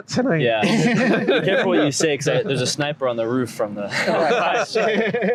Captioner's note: laughter